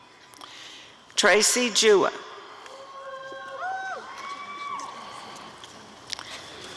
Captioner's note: applause and cheering